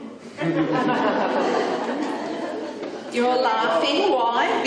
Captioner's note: audience laughing